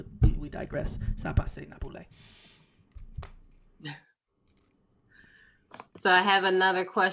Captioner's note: speaking in foreign language